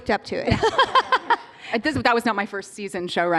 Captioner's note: laughter